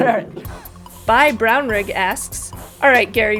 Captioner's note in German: Voice-over